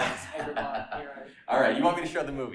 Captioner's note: laughter